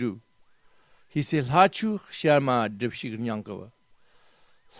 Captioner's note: tibetan